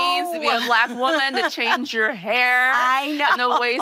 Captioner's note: laughing